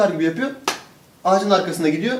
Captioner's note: slap